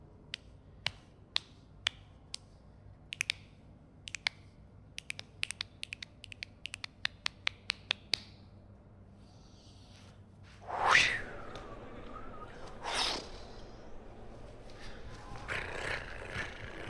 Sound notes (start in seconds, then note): 0.8 clapping; 10.5 whooshing